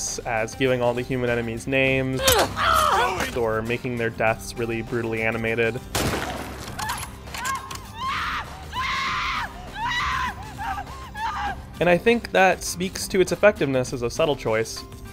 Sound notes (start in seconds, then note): 5.9 pained screams; 5.9 gunshot